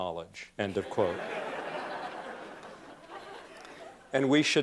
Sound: laughter

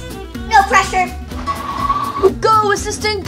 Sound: tires screech

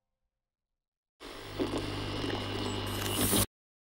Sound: zapping

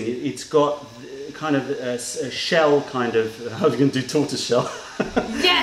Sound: laughter

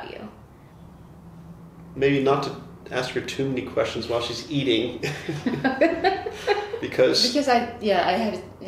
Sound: laughter

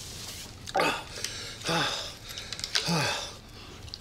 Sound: breathes heavily

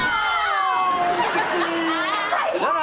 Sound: laughing

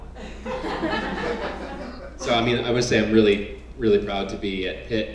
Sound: laugh

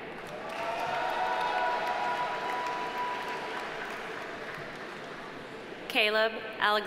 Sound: audience applauding; audience cheering

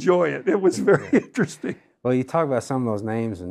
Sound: laughs

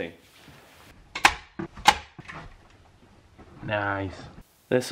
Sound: staple noise

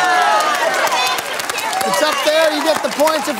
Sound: applause

